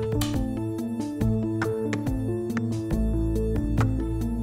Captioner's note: suspenseful music; cans tapping